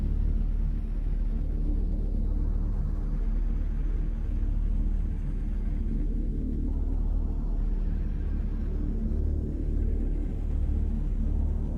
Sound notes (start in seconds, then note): none